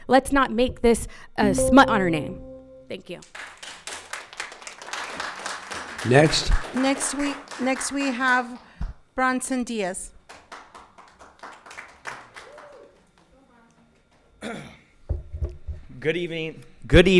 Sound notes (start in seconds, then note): 1.5 bell dinging; 3.3 audience applauding; 10.2 audience applauding